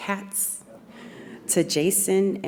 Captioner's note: audience laughs